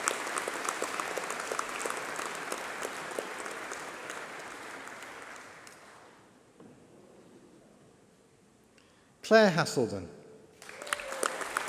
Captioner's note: applause